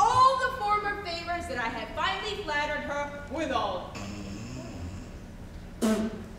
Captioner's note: spits